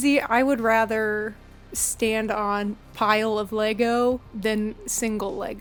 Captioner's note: none